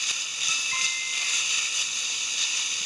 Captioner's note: chime